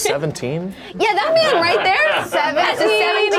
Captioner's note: group laughs